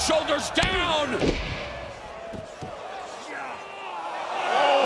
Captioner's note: crowd chatter